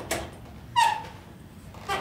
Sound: door squeaking

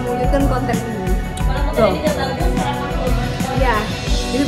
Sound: indistinct chatter

